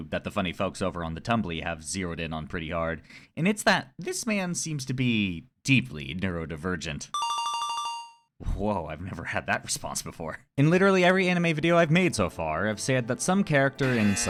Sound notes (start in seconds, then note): 7.2 ringing bell; 13.5 buzzer sound